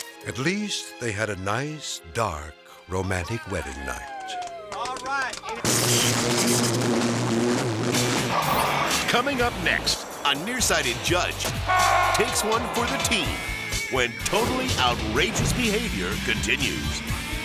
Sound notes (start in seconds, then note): 5.6 electricity buzzing